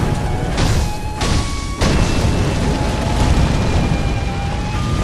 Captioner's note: attacks crashing